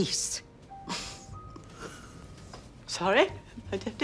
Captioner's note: all chuckling